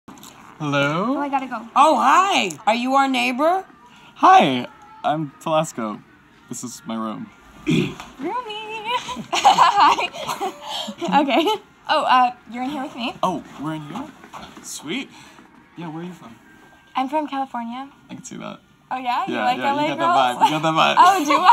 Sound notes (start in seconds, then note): 7.6 clears throat; 8.7 laughing